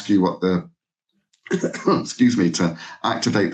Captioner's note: coughs